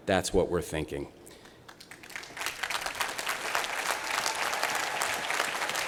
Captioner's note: applause